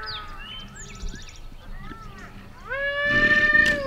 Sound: deer call

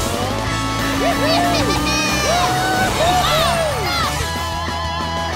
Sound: cheering

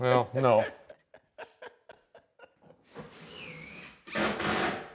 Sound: laughs

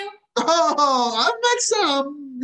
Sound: laughing

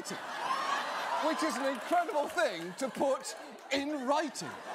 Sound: audience laughs

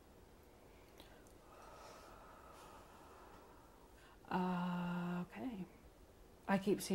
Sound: exhales slowly

